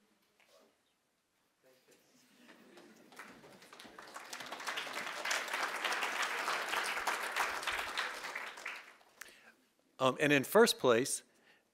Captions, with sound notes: - Thank you. (audience applauding) And in first place,